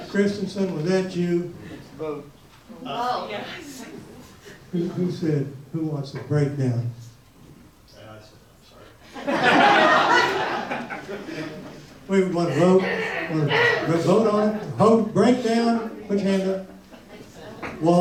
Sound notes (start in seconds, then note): 9.1 audience laughs